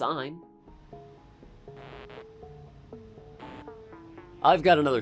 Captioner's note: static